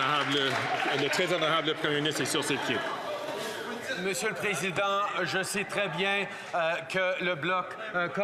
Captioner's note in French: applaudissements